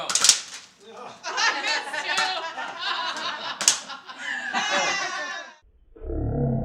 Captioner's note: laughing